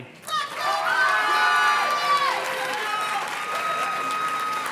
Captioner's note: audience cheers and claps